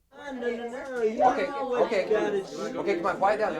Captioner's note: group chattering